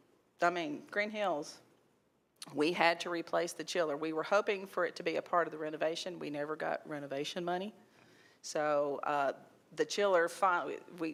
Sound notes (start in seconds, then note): none